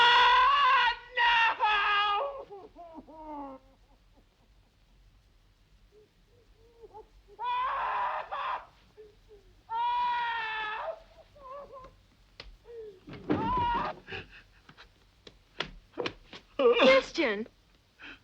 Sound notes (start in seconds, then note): 0.0 Christian screaming; 2.8 crying; 6.2 Christian crying; 7.3 Christian screaming; 11.4 Christian crying; 13.4 Christian screams